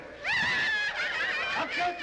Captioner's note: women laughing